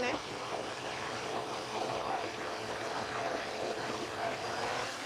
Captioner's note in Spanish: licuadora bate